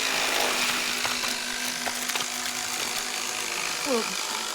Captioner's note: flesh tearing